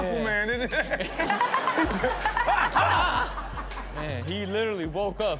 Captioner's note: audience laughs; Rob yelps